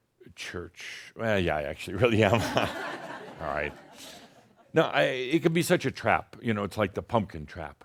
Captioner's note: some chuckles